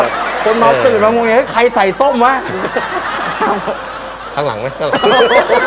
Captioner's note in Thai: เสียงหัวเราะ